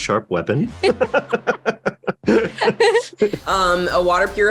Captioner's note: laughter